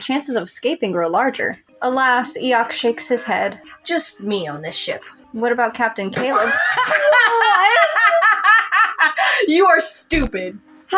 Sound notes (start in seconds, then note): 6.6 cackle; 7.8 incredulous